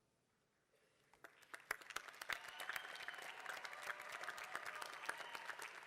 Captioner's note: applause